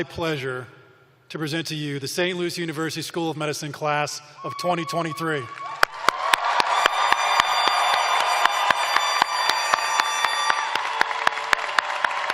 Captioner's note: cheers and applause